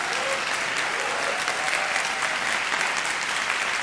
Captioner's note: audience cheering